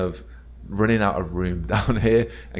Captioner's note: chuckles